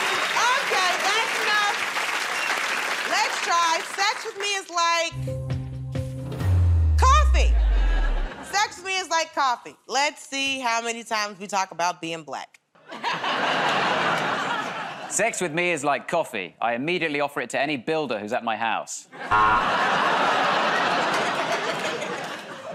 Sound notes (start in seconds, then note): 12.8 laughter; 19.3 buzzer; 20.8 laughter